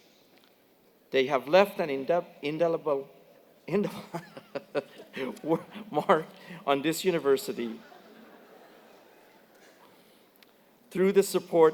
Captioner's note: laugh